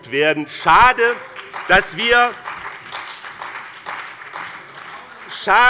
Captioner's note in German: Beifall bei dem BÜNDNIS 90/DIE GRÜNEN und der CDU - Zurufe von der SPD